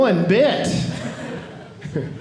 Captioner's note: audience laughing